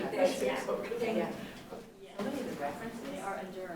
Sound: people chattering

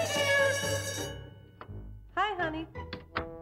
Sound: school bell

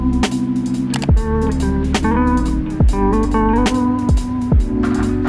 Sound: computer mouse click

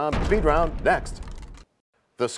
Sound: crashing sound

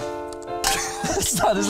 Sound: laughter

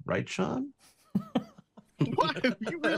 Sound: both chuckling

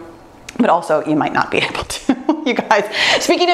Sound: laughs

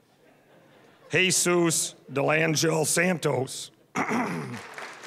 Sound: clearing throat; applause

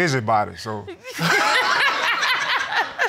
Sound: laughter

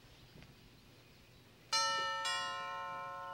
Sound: doorbell ringing

